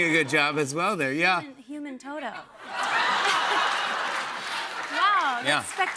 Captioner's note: laughter and applause